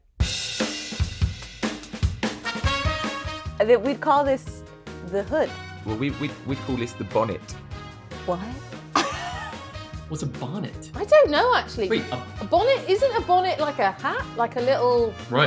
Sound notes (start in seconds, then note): 0.2 energetic, brassy music; 8.9 laughs